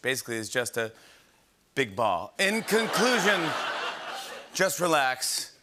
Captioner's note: laughter